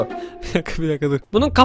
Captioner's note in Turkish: Gülerek